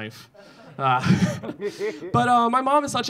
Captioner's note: audience laughing